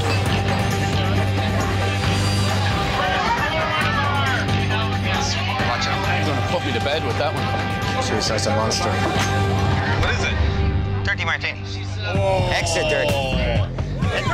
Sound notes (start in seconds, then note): 0.1 suspenseful music; 3.1 raucous chatter